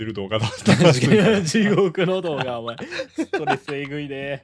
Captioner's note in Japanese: 笑い